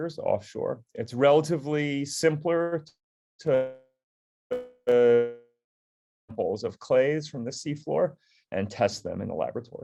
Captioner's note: distorted audio